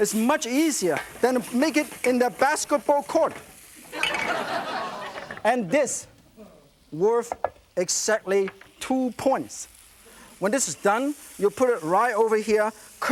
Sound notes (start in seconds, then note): 3.9 laughter